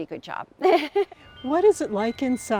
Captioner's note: laughs